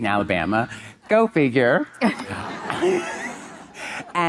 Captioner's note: Monica and audience laughing